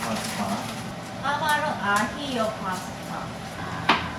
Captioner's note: sigh